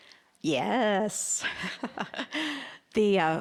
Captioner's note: laughing